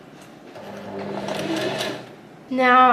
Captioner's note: sewing machine surges